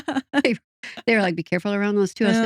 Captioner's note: both Laughing